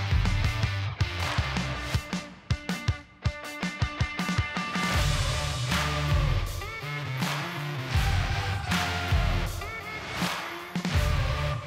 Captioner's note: applause